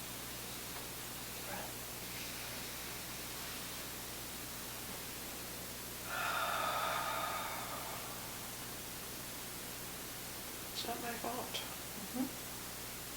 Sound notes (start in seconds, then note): 3.6 exhaling; 3.6 inhaling